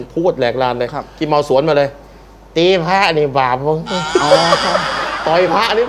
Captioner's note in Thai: เสียงหัวเราะ